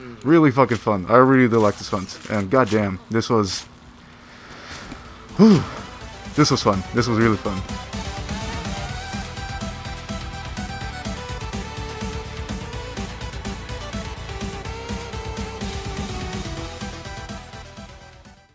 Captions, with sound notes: really fucken fun i really do like this hunt and god damn this was (sigh) WOOO this was fun this was really fun